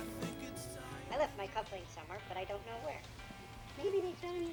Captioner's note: cartoons on TV